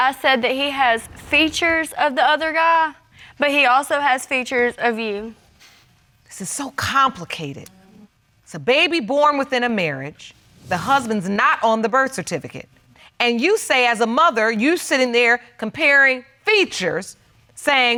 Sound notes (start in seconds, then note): none